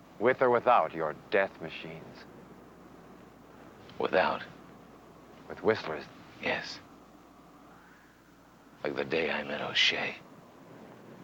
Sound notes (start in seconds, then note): none